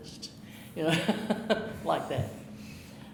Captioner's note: chuckling